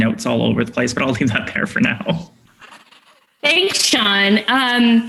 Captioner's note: laughs